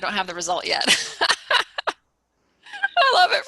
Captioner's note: laughing